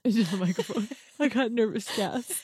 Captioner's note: laughs